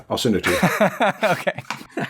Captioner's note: laughter